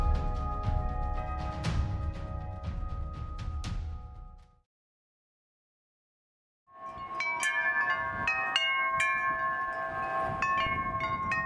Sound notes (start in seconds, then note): 6.7 wind chimes ringing